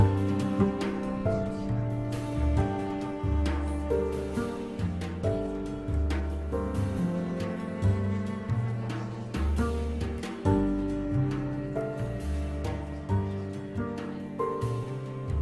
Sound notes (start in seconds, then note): 2.1 indistinct chatter